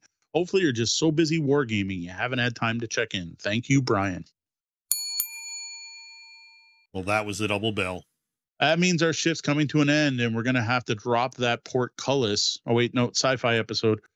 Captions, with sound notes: Hopefully you're just so busy war-gaming. You haven't had time to check in. Thank you, Brian. (bell dings) - Well, that was the double bell. That means our ship's coming to an end and we're gonna have to drop that portcullis. Oh, wait, no, sci-fi episode.